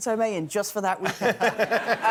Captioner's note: laughter